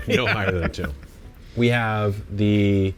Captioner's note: laughs